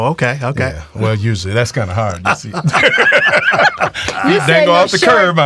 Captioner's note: all laughing